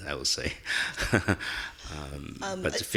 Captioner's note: laughing